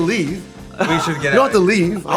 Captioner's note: laughing